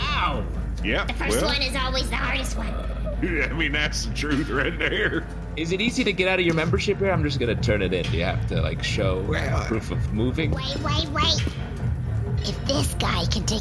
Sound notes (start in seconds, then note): 2.9 chuckling